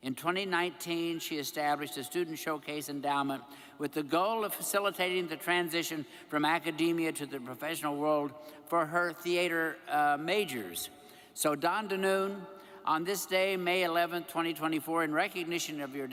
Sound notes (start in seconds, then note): none